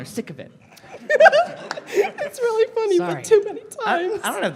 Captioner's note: giggling